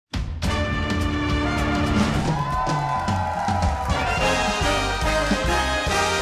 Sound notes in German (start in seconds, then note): 0.1 Lässige Klänge; 1.4 Jubel; 3.4 Lässige Musik